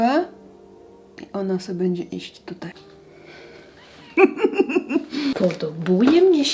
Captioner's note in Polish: śmiech